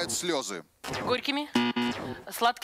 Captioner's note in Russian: пи-пи